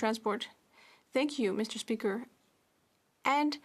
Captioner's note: speaking French